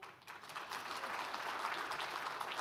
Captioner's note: audience clapping